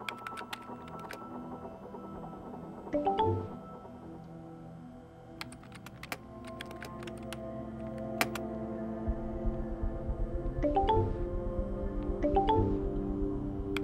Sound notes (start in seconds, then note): 0.0 keyboard clacking; 2.9 electronic chiming; 10.6 electronic chiming